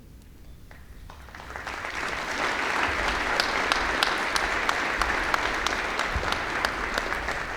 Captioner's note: applause